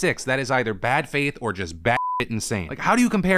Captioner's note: beep